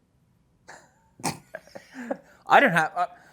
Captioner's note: laughs